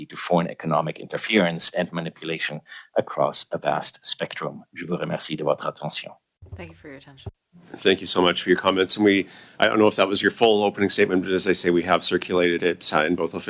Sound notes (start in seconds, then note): 10.5 speaking French